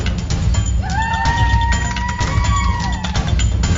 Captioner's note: cheering